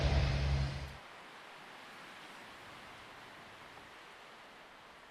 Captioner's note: leaves rustling in the wind